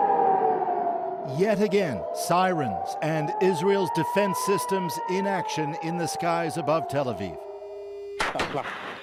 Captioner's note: sirens